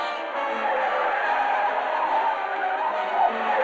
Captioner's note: tires screeching